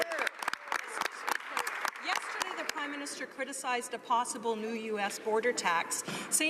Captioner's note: some Applause